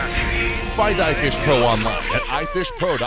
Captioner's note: whooping; voiceover